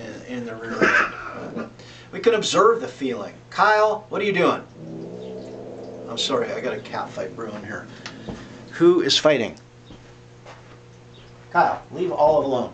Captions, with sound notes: in the rear end. We can observe the feeling. Kyle! What are you doing? [Cat growling] I’m sorry. I got a cat fight brewing here. Who is fighting? Kyle, leave Olive alone.